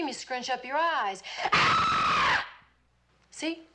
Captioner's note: screams